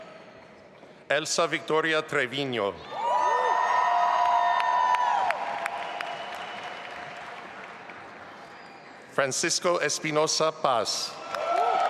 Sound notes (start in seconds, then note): 3.0 audience applauding and cheering